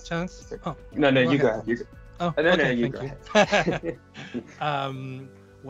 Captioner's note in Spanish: risas